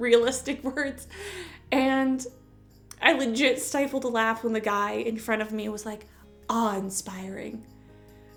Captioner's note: chuckle